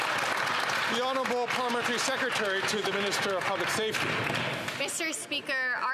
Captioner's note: some Applause